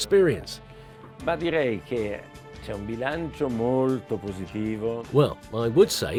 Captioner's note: speaking in foreign language